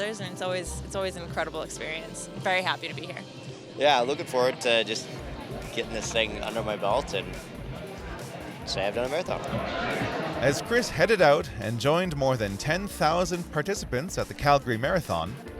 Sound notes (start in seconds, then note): 9.6 voiceover